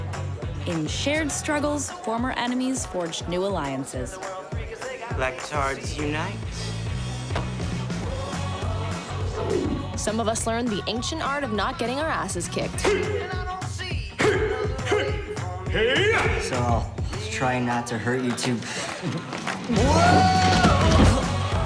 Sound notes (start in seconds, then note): 12.5 grunting